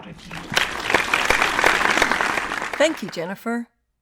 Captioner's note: audience applauds